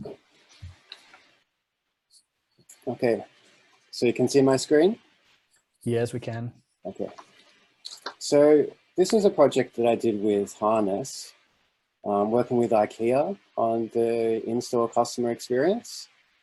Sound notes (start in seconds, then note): none